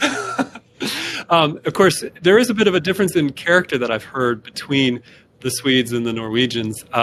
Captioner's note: chuckle